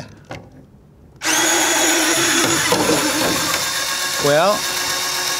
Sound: Kurara washer whirring

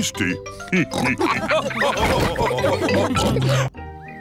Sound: all laugh

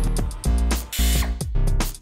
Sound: air-powered drill

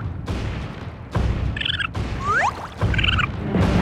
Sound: squeaking

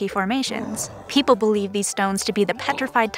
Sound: dragon roars

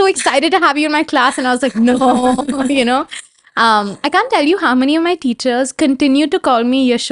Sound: chuclkes

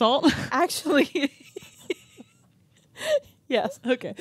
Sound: chuckling

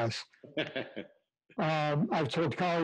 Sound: laughter

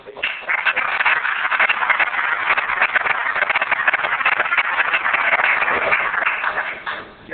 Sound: applause

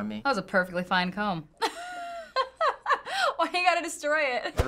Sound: laughs

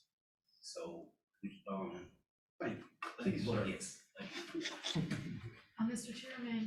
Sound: laughter

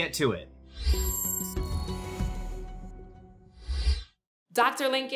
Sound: stately music; sound whooshing

